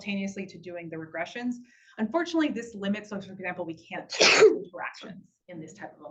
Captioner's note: sneeze